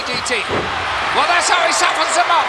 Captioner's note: audience cheering